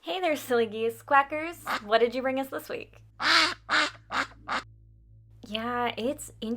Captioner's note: quack